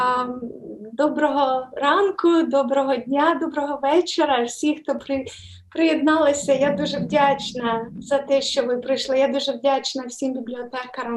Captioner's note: foreign Language